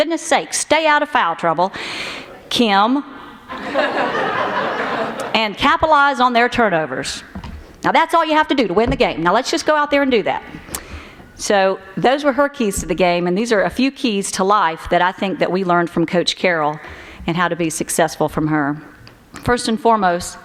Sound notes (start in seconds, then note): 3.5 laughter